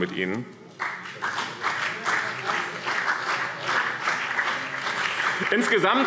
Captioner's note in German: Vereinzelter Beifall BÜNDNIS 90/DIE GRÜNEN und CDU